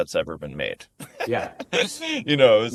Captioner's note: laughs